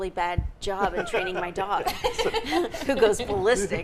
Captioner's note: group laughing